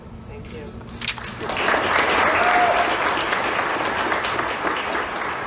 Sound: applause

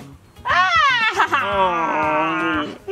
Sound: laughing

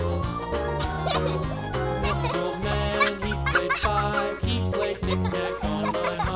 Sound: child laughing

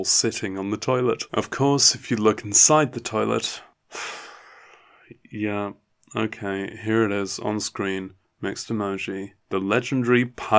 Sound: sigh

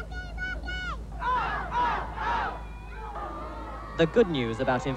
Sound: crowd

